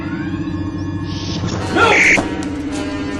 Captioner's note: phaser fire